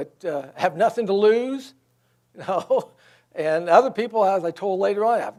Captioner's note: laughs